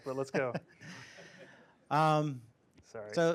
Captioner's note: laughter